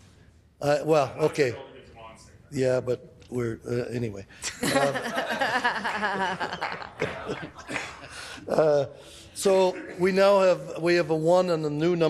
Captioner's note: laughing